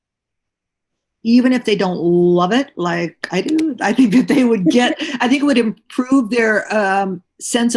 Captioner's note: laughter